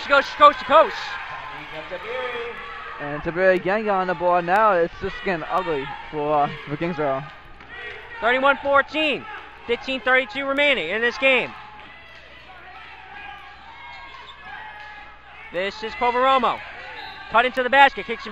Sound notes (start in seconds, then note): 12.0 crowd talking and yelling